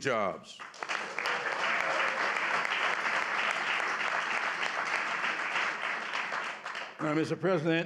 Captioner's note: applause